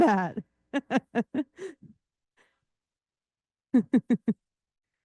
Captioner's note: interpreter laughing